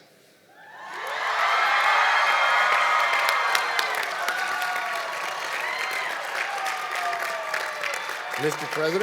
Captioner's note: cheering and Applause